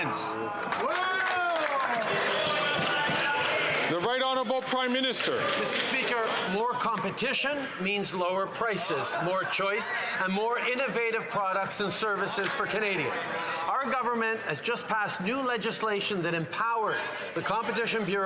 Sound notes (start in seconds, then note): 3.7 some Applause